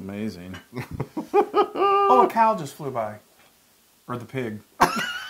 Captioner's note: laugh